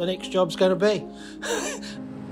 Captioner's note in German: Lachen